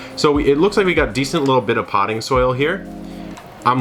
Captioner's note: none